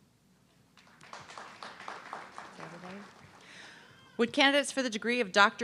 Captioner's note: audience clapping